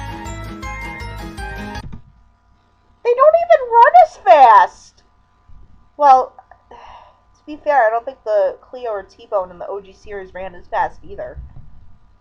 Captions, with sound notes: They don't even RUN as fast! Well... (sighs) to be fair, I don't think Cleo or T-Bone in the OG series ran as fast, either.